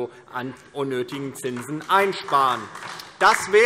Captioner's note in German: Beifall DIE LINKE